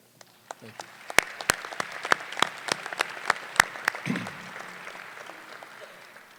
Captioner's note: applause